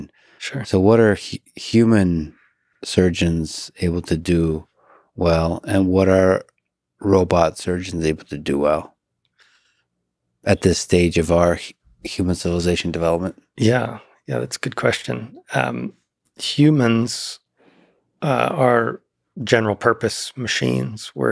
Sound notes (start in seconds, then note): none